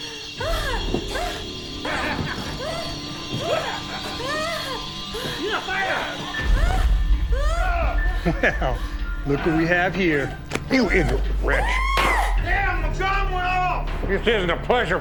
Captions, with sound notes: (lady breathing heavily) (chuckles) - Well, look what we have here. - You ignate wretch. (lady screaming) This isn't a pleasure palace.